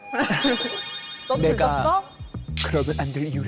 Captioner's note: with a dramatic actor tone